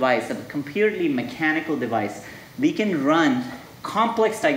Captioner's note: none